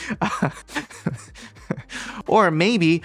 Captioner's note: host chuckling